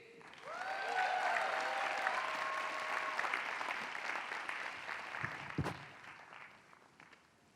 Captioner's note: applause